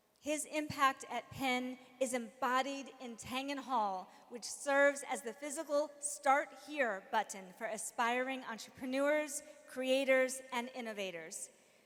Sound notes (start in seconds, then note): none